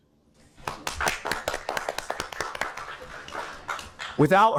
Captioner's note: audience clapping